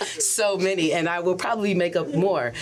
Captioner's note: laughs